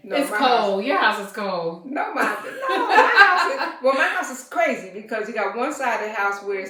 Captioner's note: laughter